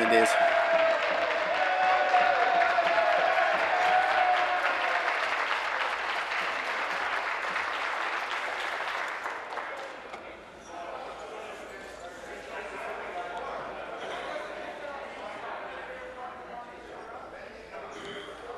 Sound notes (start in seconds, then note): 4.5 applause